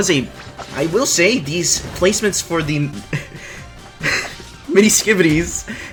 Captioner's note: laughs